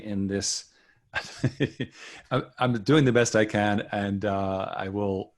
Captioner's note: chuckles